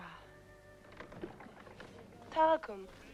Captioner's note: door opens